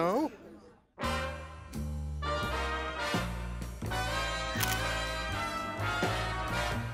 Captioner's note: shutter clicks; upbeat band music